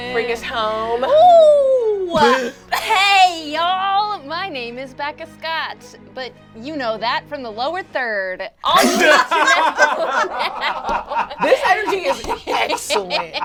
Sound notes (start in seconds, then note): 2.1 laughs; 8.7 all laugh